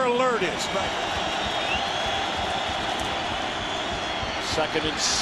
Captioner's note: crowd cheering